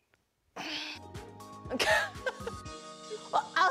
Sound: laughs

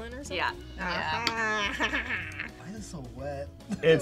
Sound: laughs awkwardly

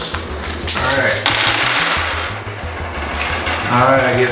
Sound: dice rolling

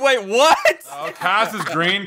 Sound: laughs

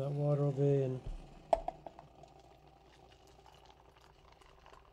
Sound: water pouring

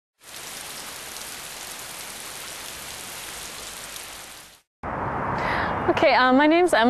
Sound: sound of falling rain

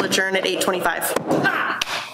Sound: gavel bangs

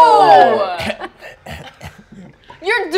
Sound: coughs lightly

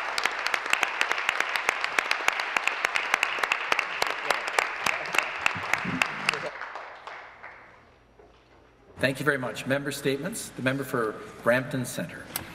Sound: applause; cheers and Applause

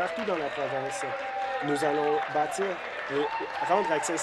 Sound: applause

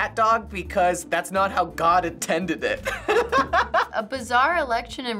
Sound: laughs

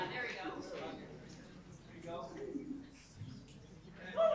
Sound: group chatter

